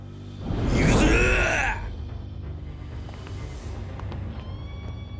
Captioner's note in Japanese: うめき声